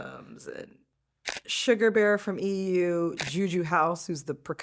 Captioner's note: shutter snaps